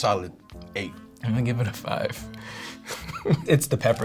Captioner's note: laughs